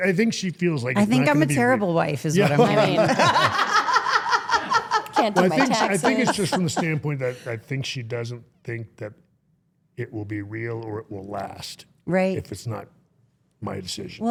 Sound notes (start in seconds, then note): 2.4 guest and co-host laugh